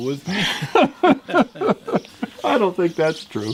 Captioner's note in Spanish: risas